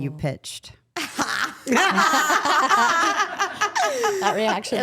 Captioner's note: everyone laughs